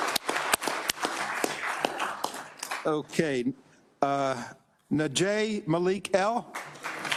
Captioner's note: applause